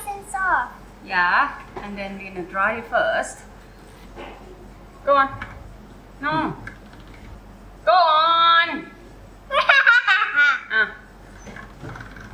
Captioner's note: ha ha ha ha ha